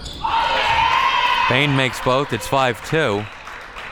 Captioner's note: audience cheers